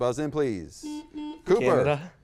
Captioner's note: button beeping